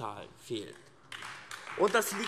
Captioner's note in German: Beifall AfD